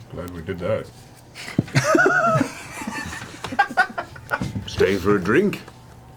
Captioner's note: all laugh